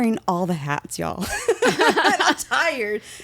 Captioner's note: laughing